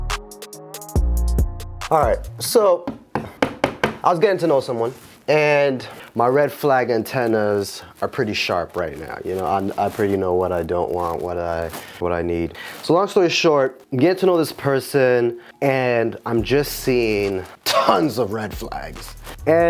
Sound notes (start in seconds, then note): 2.8 hammer bangs